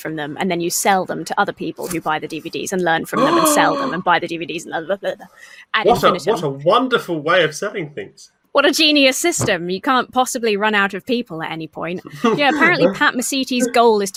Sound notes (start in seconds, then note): 3.2 gasps; 4.6 splutters